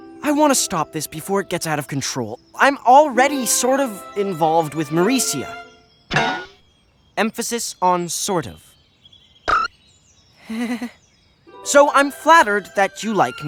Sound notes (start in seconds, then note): 10.4 nervous chuckle